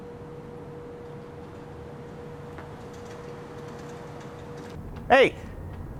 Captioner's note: vehicles rumble faintly